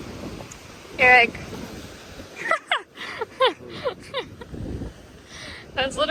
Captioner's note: starts laughing